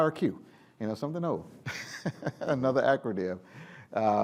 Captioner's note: laughs